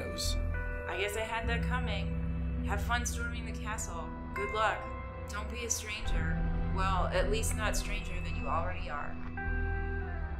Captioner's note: crash